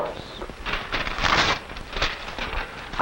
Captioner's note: paper tearing